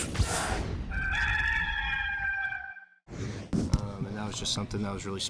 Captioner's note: rooster crowing